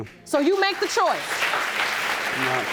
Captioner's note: audience applauds